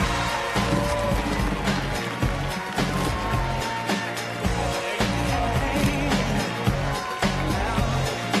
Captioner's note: applause